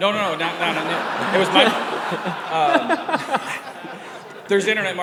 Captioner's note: audience laughing